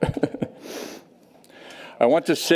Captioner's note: chuckles